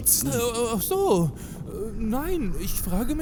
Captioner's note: stutters